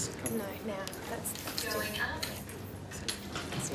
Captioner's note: elevator Voice